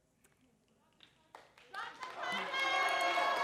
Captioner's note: applause